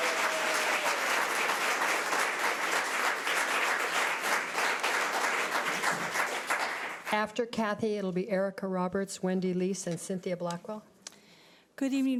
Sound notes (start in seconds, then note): 0.0 audience applause